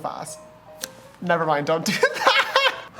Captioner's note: laughs